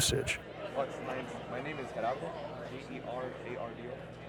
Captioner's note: indistinct chatter